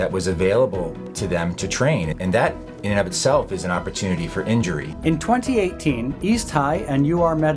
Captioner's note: voiceover